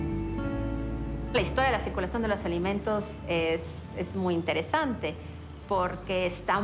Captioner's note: in Spanish